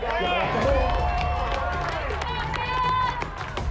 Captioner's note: cheering and applause